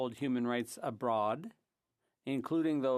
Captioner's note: speaking French